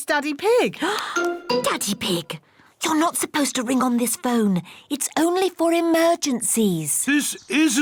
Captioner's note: gasps